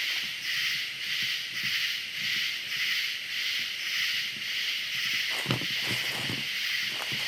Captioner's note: crickets chirping